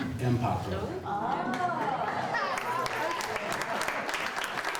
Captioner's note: audience applauds